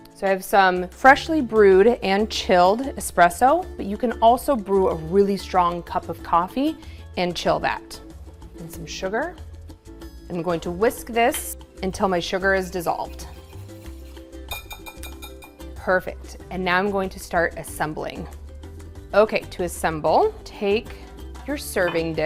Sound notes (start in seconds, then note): 12.9 whisk swooshing; 14.5 whisk tapping